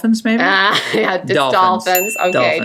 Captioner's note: laughing